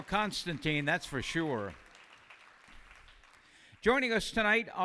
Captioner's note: applause